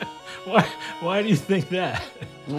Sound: laughter

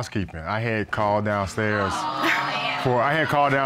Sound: audience exclaiming

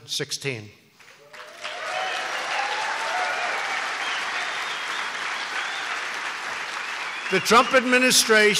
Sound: applause

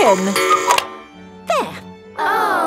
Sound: cuckoo clock

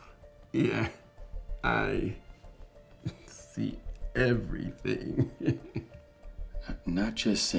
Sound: laughs

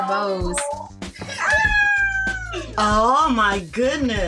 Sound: screams lightly

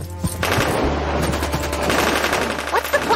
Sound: gun shoots

